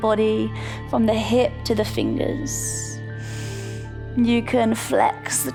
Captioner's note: inhales